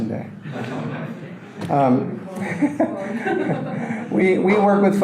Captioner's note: audience laughter